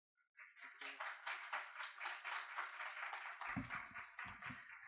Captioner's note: audience clapping